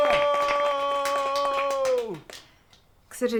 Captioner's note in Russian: аплодисменты